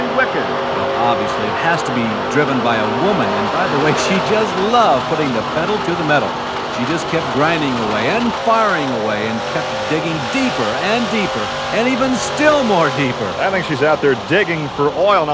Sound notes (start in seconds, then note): 0.2 voiceover